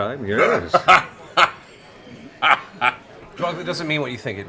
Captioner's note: laughs